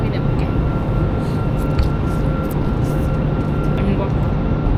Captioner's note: slurping